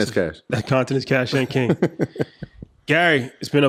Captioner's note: laughs